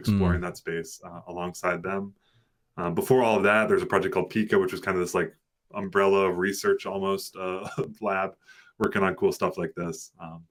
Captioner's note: audio cutting out